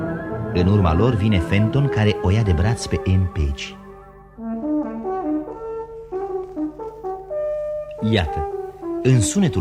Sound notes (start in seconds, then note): 4.0 sound of a horn